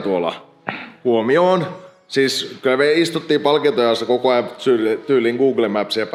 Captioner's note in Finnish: rykäisy